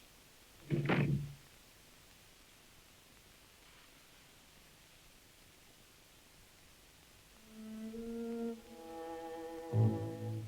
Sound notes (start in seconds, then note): 0.6 door thuds; 7.4 somber music